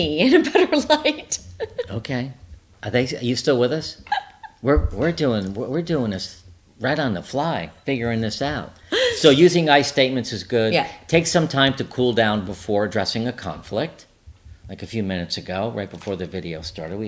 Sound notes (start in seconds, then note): 1.2 laughs